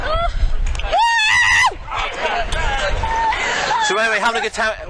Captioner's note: screaming